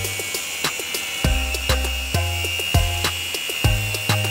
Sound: angle grinding; house music

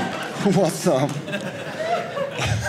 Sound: audience laughing

